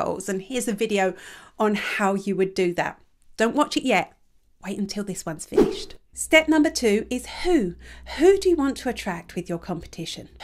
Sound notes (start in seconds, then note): 5.5 image whooshes